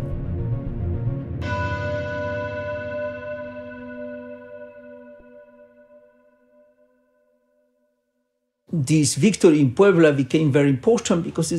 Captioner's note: soundbite of bell